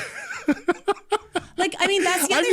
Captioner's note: laughing